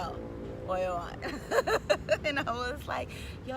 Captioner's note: laughing